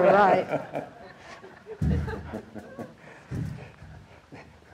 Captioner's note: audience laughing